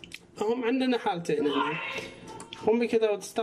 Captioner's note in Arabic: صوت طرزان